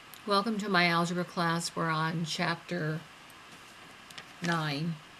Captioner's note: voiceover